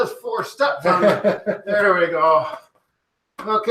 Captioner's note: chuckling